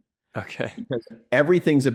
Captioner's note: laughs